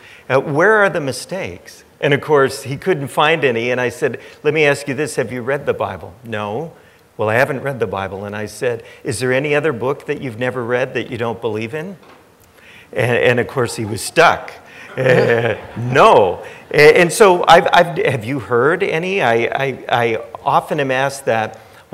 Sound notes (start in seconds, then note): 14.7 chuckles; 14.8 audience laughing